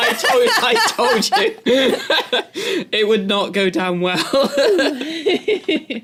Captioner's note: laugh; laugh